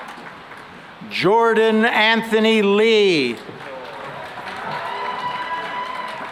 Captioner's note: cheering and applause